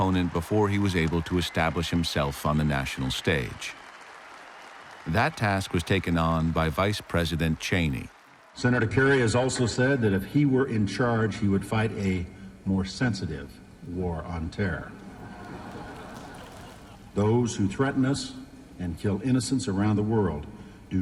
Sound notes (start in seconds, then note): 15.0 laughter